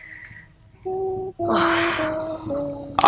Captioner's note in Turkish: İç çekme